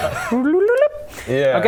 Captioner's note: climbing up noises